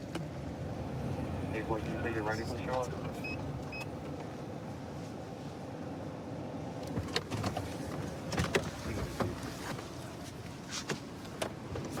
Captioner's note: indistinct dispatch speech